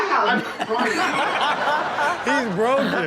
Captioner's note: audience laughs